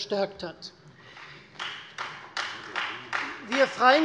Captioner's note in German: Beifall Freie Demokraten